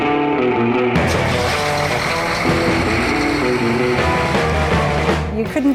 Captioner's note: engine starts